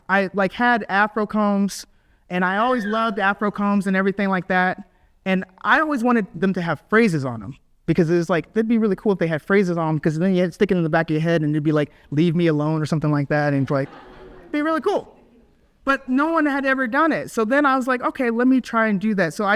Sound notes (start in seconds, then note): 13.4 audience laughs